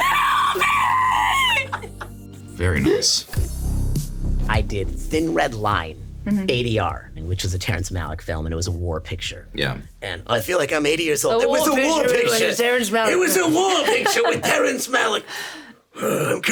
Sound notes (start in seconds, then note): 1.2 Richard and Sarah laughing; 3.6 mellow chillwave music; 13.8 Sarah laughs